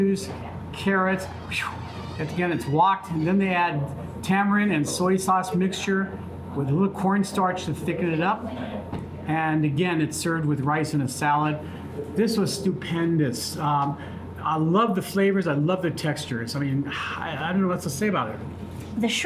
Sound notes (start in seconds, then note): 1.2 blows